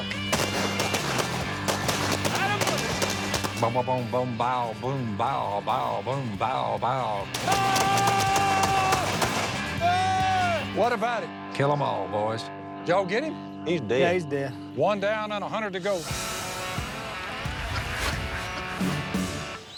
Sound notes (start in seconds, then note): 7.3 yells